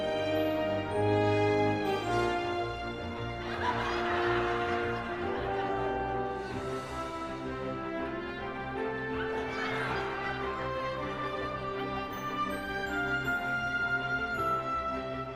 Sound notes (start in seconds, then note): 6.4 laughing continues